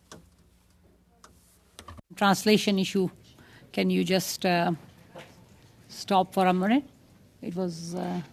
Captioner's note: speaking French